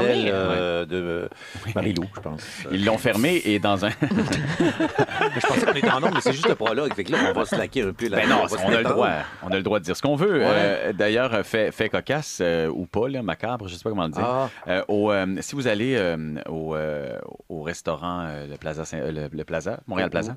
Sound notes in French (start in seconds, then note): 3.8 rires